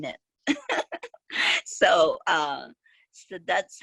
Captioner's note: laughs